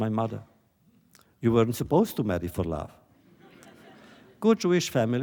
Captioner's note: laughter